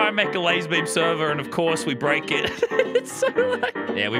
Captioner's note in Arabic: يضحك